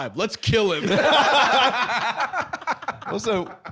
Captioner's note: all laughing